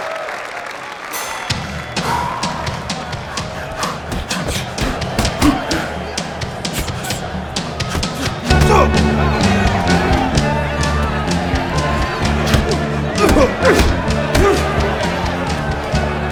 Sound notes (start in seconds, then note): 1.1 doorbell rings; 4.9 grunting; 6.6 screaming